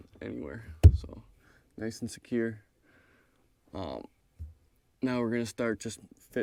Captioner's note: palm thumping